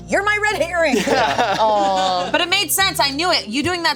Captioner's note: group laughing